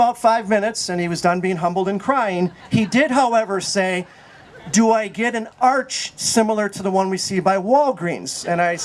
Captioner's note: laugher